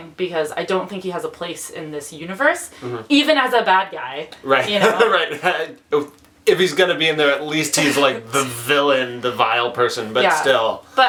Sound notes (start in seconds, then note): 4.6 laughs